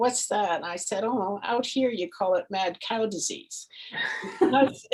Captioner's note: laughs